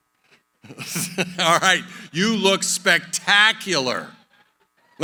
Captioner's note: laughs